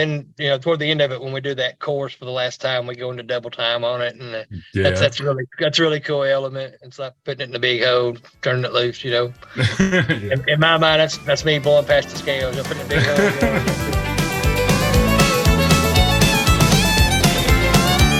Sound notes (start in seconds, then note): 12.4 laughs; 12.5 chuckles